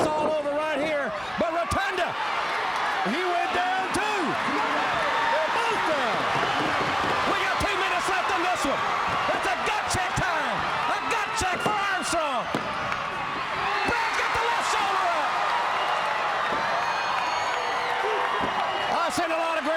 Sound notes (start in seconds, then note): 4.6 crowd cheering; 12.3 crowd cheering; 16.1 crowd cheering